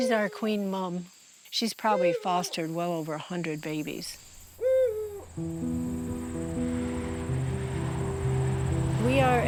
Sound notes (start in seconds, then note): 4.4 owl hooting; 8.1 slow-tempo soft piano music